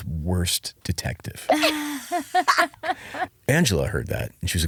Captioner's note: laughing